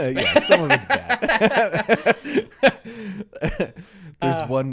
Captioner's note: laughing